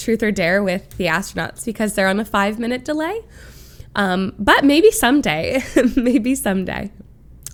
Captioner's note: laughs